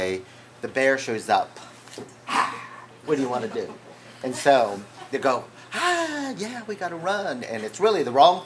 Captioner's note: rawr